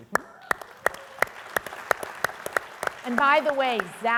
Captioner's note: audience applauding